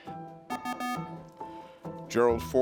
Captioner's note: beeping